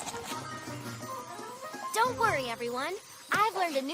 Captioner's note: tinkling